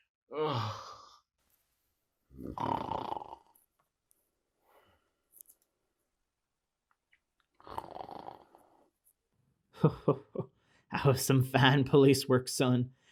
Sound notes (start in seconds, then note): 2.3 still asleep, snores some more; 9.7 chuckles